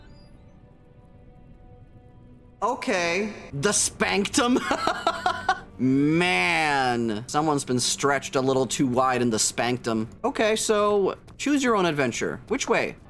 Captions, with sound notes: Okay. "The spanktum?" (Laughs) Man. Someone's been stretched a little too wide in the spanktum. Okay, so choose your own adventure. Which way?